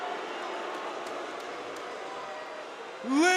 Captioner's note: audience jeering